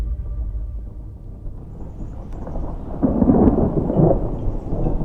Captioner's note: thunder